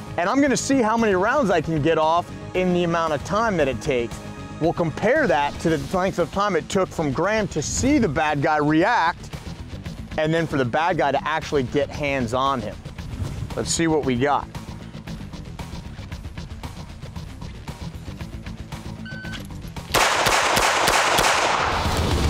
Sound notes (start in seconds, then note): 19.0 beep; 19.8 gunshots